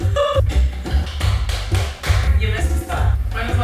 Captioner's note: laughs; slaps